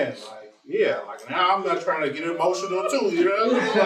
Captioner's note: laughter